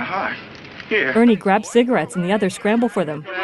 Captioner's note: players clamoring